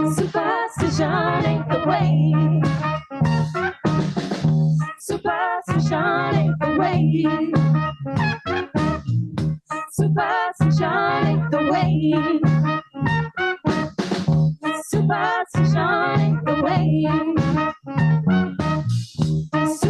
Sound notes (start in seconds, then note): none